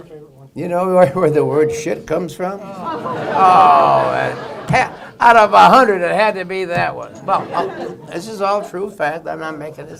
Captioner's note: laughter